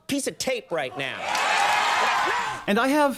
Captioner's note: roaring cheers and applause